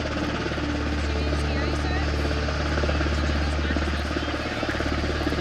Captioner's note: helicopter blades chopping